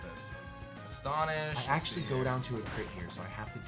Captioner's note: none